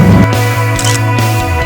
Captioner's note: photo clicks